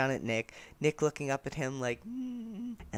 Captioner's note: happy humming